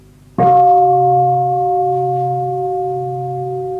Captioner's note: bell